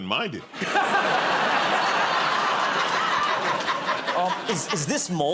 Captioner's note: laughter